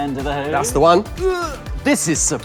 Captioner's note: grunts